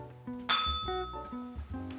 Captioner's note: bell rings